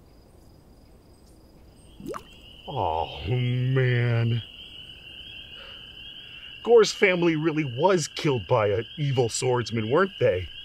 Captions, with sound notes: *Plop* Oh, man. Gor's family really was killed by an evil swordsman, weren't they?